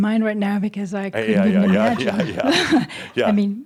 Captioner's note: they chuckle